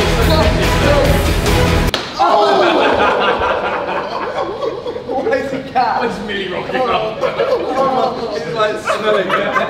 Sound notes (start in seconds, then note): 1.8 slapping; 3.7 lads laughing